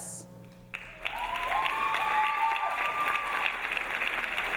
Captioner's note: audience cheering